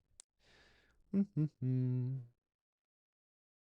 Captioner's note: hums